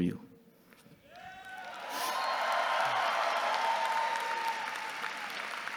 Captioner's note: audience cheering and clapping